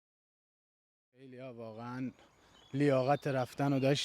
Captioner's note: Speaking Farsi